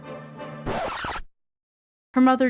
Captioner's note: record scratch